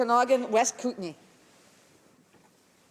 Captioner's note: speaking french